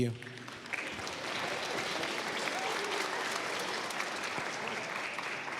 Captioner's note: applause